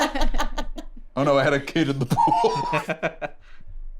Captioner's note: all laughing; laughs